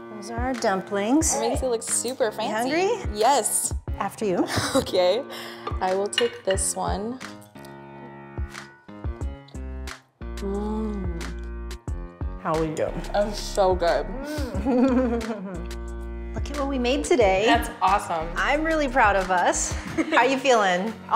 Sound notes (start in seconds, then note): 5.2 chuckles; 14.3 chuckles; 20.3 chuckles